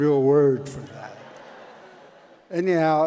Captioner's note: audience laughs